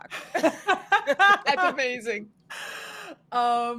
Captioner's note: both laughing